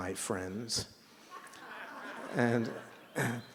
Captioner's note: laughter